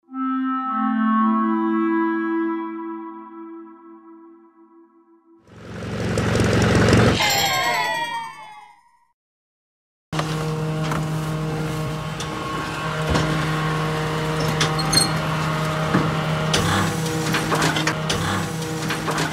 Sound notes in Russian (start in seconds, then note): 10.1 Лязг механизмов; 12.9 Шум загружаемого мусора